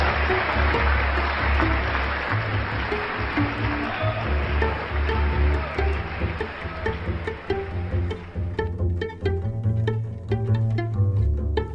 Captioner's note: applause and cheers